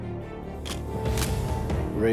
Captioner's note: camera shutter click